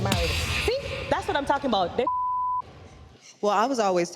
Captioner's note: beep